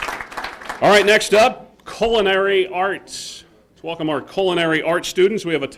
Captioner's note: applause